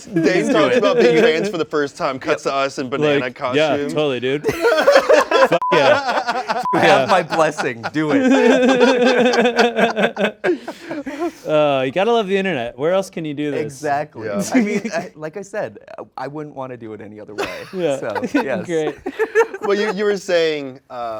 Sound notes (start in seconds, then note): 5.0 all laughing; 8.5 hosts laughing